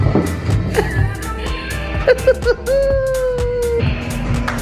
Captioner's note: laughing